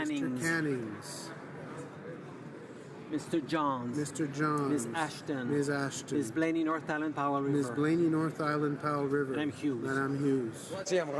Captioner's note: speaking French